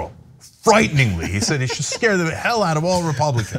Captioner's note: laugh